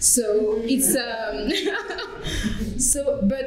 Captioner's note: laughter